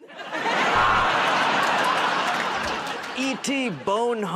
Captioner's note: buzzer